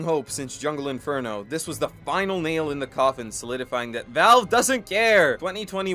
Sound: exasperatedly

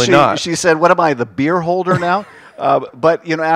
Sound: laughter

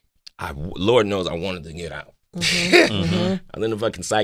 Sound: Jussie laughing relievedly

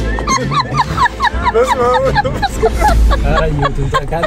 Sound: laughter

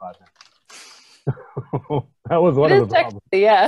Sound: laughs

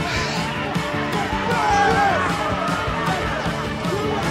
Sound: applause

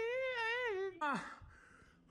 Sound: heavy breathing

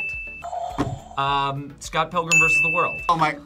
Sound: bell rings; buzzer rings; bell rings

